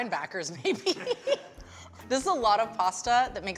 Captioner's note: laughing